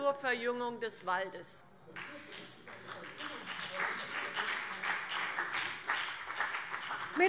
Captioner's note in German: Beifall BÜNDNIS 90/DIE GRÜNEN und vereinzelt CDU